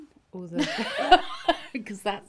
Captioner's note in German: lachen